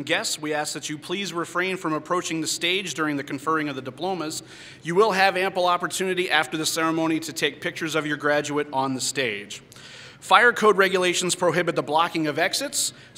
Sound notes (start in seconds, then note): none